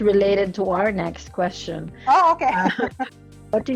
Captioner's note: laughs